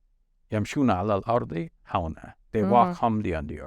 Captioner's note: speaking Arabic